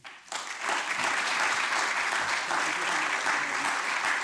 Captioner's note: applause